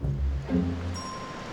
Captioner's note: ding